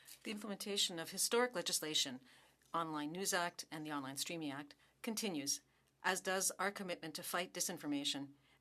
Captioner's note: speaking French